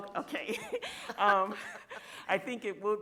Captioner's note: all chuckle softly